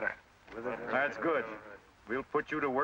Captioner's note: men murmuring